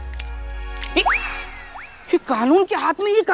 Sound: gasps

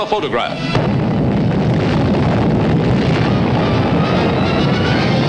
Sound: bomb blasting

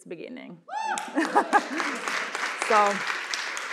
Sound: cheering, applause

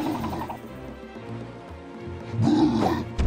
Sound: video game sounds

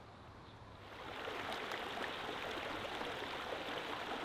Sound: water rippling

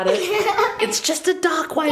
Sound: laughs

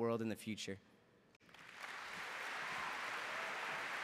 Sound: applause

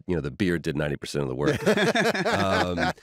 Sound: laughter

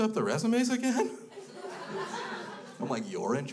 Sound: crowd laughs

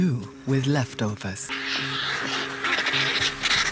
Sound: screeching

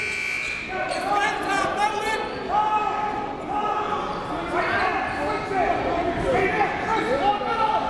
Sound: buzzer goes off; crowd talking; coaches yelling

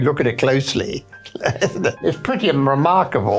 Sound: laughing

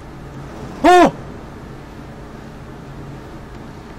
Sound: skreek

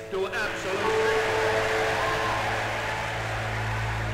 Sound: loud crowd and cheering

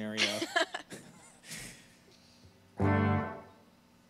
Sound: laughing

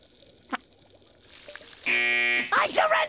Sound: buzzer buzzing

